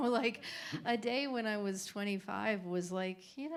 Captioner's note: laughter